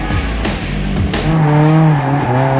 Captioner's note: engine revs; tires squealing